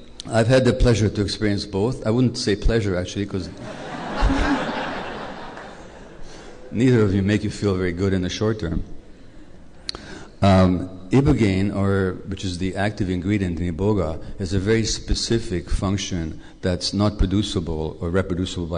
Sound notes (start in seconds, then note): 3.5 laughter